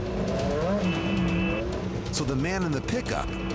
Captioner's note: honking